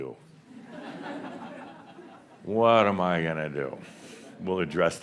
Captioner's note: some chuckles